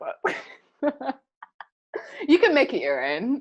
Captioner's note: laughing